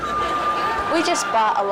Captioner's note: audience laughs